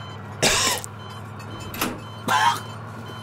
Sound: coughing

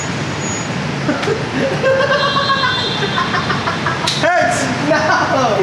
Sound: laughs

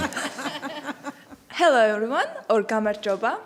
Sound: laughing

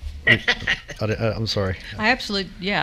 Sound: laughs

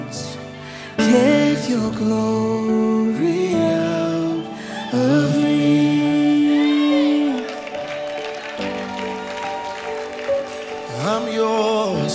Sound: audience praise

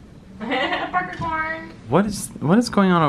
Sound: laughing

